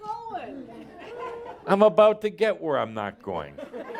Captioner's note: some laughter